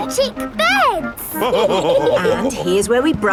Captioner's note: all laughing